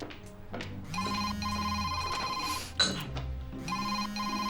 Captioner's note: phone rings